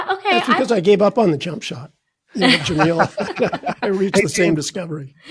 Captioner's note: laughing